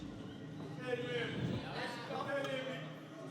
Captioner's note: indistinct chatter